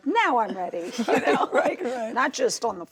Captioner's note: laughter